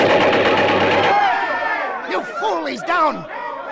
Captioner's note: crash